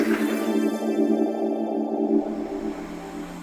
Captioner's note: applause